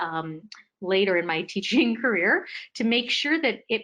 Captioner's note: laughing